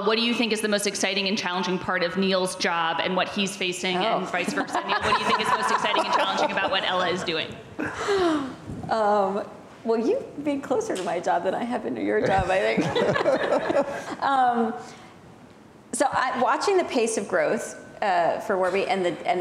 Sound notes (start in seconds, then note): 4.5 laughs; 12.7 both laughing